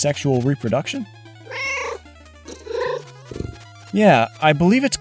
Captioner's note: meow